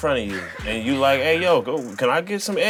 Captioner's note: laughter